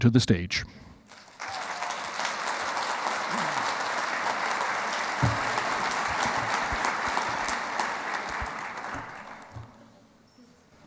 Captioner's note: clapping